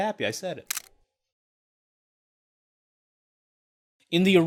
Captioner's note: video clicks